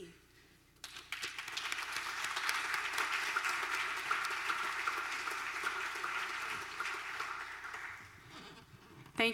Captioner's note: applause